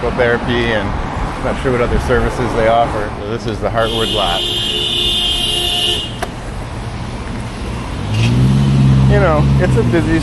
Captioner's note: car HONKS loudly